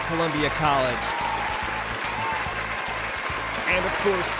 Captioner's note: audience applauds